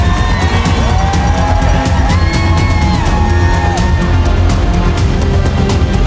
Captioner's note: crowd cheering; dramatic music